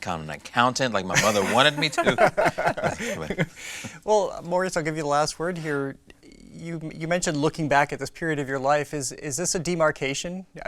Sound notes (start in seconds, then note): 1.1 laughter